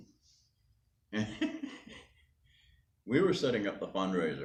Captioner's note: laughing